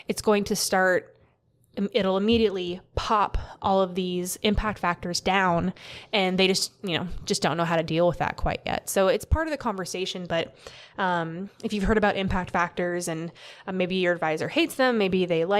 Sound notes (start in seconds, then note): none